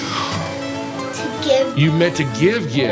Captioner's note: gasps